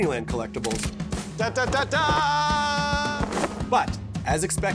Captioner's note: singsong